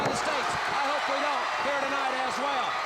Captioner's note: crowd cheering